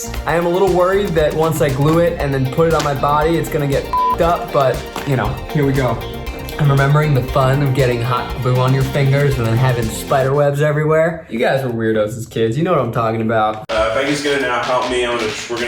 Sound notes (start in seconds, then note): 3.9 beeps